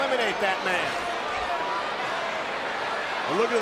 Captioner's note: crowd chattering